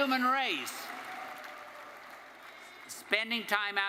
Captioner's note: attendees applauding